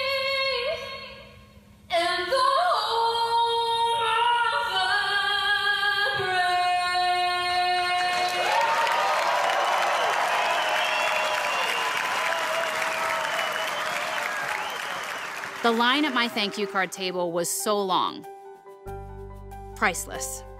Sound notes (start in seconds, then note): 6.1 cheers and applause